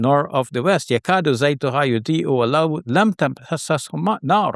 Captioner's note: speaks in Arabic